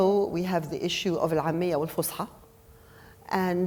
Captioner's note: speaking foreign language